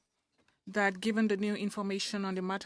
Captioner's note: speaking French